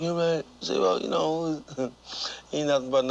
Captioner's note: chuckling